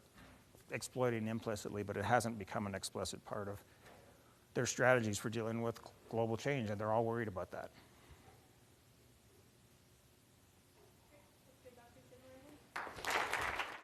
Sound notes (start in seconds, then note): 12.7 clapping